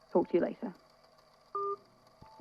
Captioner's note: call end beep